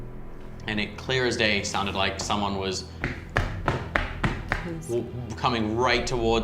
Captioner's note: stomping